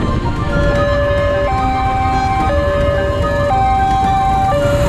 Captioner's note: railroad crossing beeping